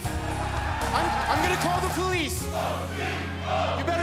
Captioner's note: fans chanting